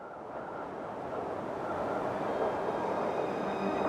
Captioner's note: wind blowing